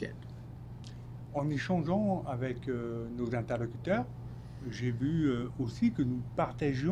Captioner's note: speaking French